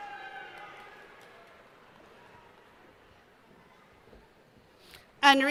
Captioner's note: cheering